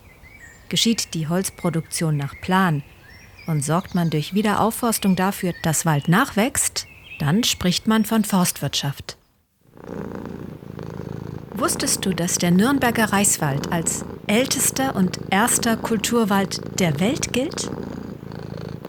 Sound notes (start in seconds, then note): 9.7 purring